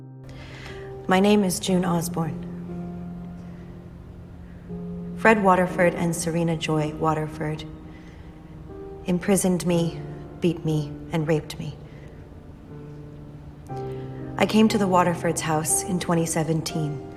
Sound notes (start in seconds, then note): 1.3 voiceover; 14.6 voiceover